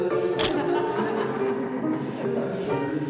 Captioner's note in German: Gelächter